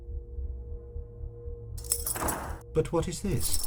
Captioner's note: padlocl opens